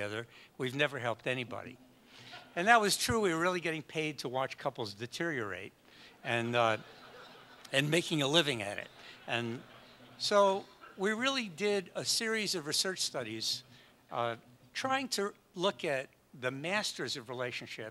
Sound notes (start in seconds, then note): 1.8 audience laughs; 6.7 audience laughs